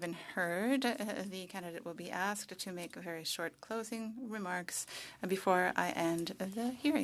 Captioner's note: speaking French